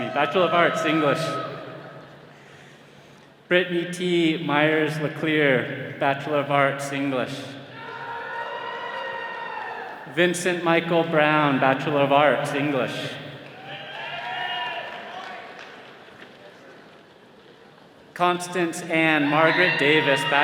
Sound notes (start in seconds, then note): 7.7 attendees cheering; 16.7 all cheering